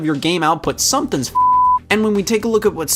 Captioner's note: beep